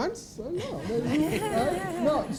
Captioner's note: laughter